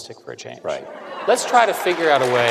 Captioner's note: applause